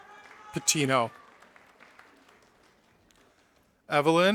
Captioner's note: audience applauding